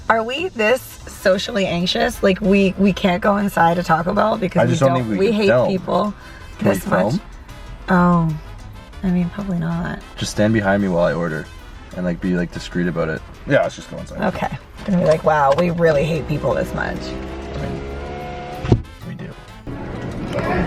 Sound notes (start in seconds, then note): 17.1 window rolling up